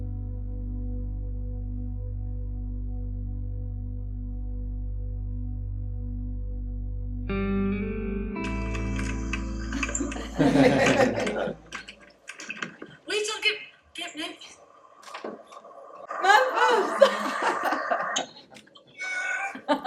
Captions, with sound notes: (laughing) Wait, I'll get Memphis. Memphis. (laughing)